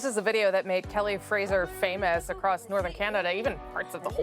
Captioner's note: speaking in inuktitut